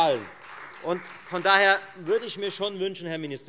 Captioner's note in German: Beifall Freie Demokraten